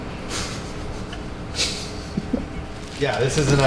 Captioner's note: chuckles